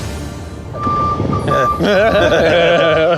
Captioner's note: vehicle reverse beeping; giggling